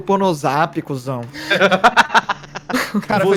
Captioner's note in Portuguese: risada